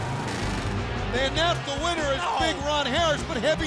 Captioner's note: crowd cheering